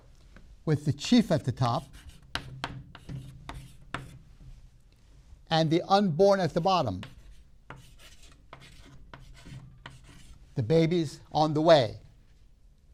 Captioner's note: writing sounds